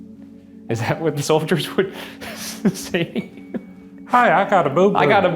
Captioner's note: laughing